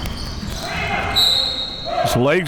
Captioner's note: whistle blowing